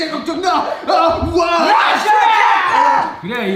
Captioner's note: aggresively